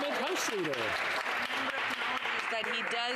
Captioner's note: some Applause